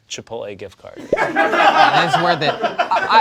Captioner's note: background laughter